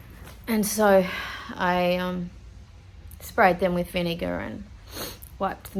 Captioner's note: sniffs